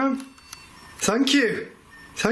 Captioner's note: solid beeping